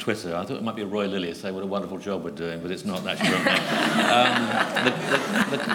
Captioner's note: laughter